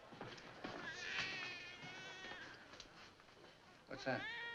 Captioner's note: baby cries